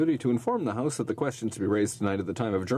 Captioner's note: speaking in french